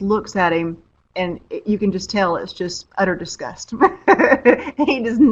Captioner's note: laughs